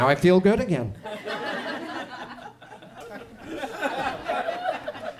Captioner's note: audience chuckles